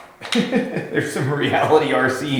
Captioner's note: laughs